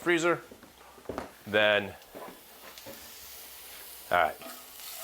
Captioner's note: pan sizzling softly